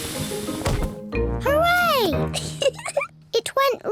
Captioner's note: giggles